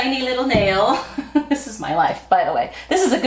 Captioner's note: laughing